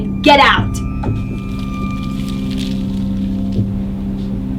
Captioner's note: beads rattling